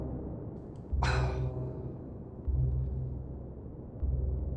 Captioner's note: Bill groaning